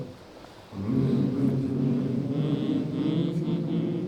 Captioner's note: humming